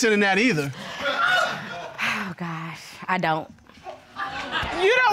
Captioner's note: audience laughing